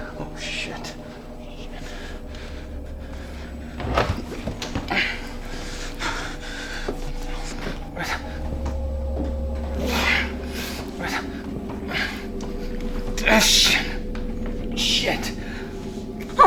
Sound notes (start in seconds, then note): 2.1 chilling music; 2.1 heavy breathing